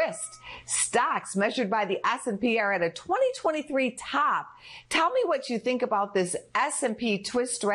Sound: bell rings

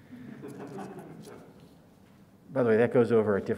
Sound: audience laughs

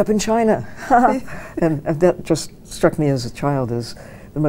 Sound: chuckles

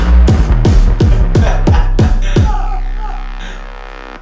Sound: he yells; they laugh

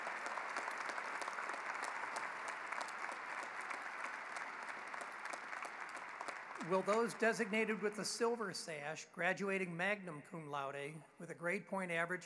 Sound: applause

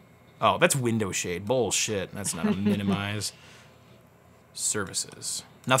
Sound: laughs

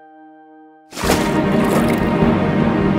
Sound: water splash and bubbling sound

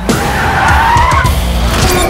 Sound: brakes squeak

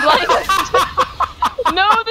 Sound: laughing really hard

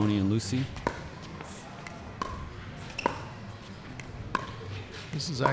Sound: ball bouncing

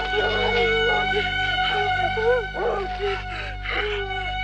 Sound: Bubba gasping

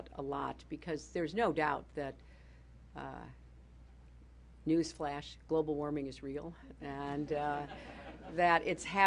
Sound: laughter

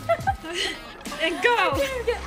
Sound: laughing

